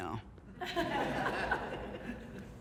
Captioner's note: audience Laughing